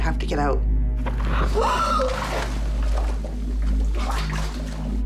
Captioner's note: gasps